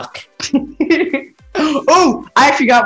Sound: laughing

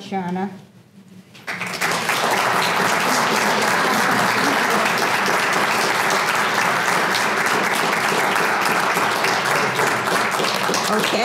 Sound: applause

